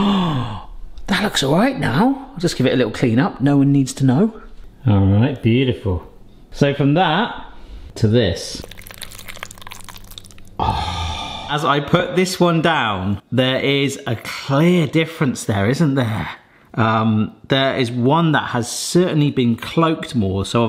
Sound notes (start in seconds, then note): 0.0 gasps; 8.6 slow cooked mac squelches thickly; 10.6 sighs